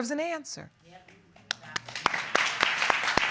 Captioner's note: audience applause